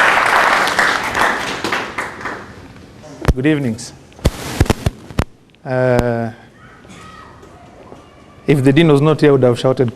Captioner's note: clapping